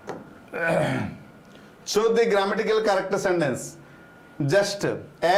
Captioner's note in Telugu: గొంతు సవరించుకోవడం